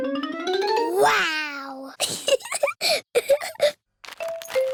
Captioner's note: giggles